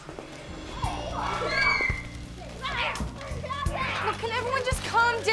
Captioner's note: kids yelling